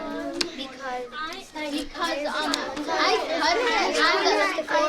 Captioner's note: students chattering